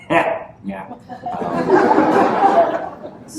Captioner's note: laughter